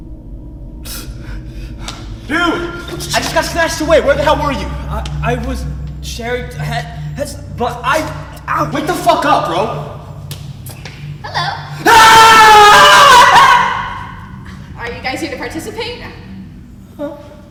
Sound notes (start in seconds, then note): 0.9 gasps; 11.3 Taran screams